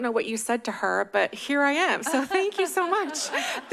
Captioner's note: laugh